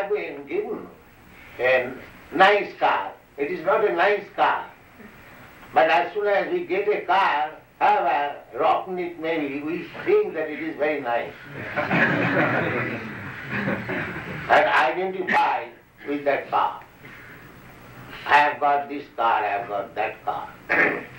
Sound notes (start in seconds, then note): 11.5 laughter